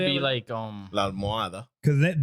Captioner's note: speaking In Foreign Language